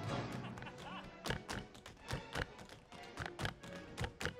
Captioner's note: man laughing